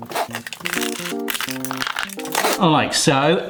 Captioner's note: clingfilm crinkling; gentle music